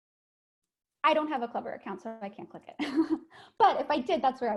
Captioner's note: laughs